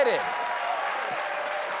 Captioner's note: applause